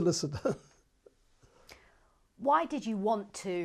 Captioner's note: laughs